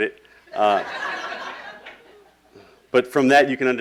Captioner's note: laughing